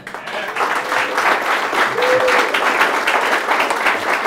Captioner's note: crowd applauds